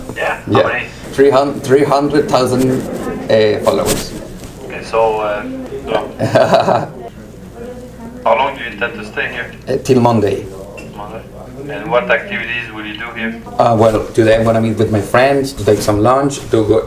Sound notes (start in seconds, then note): 6.0 nervous laugh